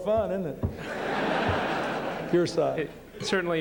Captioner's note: laughter